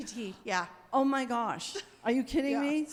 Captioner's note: participant chuckles